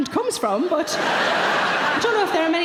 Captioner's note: audience laughing